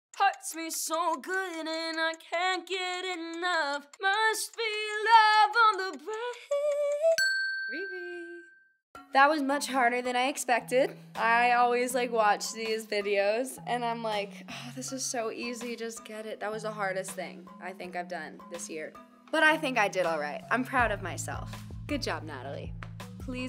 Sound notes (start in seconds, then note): 7.2 bell ringing